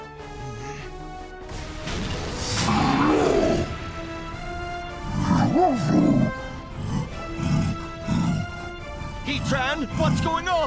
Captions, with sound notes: [Heatran roars] [growling] Heatran, what's going on?